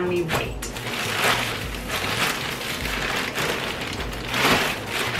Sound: plastic crinkling

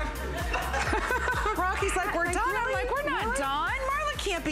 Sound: laughter

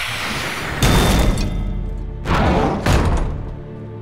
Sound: thudding

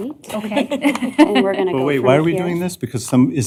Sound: laughter

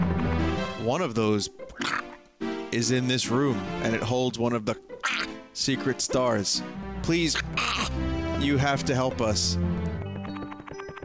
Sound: duck noise

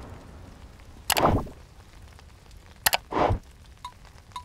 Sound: mouse clicks

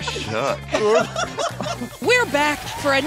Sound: everyone laughs

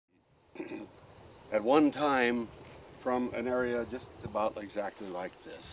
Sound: clears throat

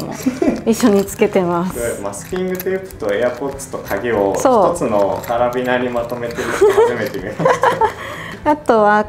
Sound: laughs

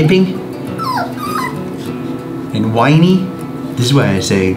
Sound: giggles whining

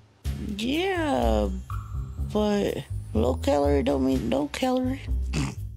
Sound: laughs

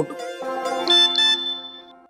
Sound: message tone beeps

